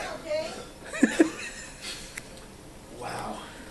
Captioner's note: laughing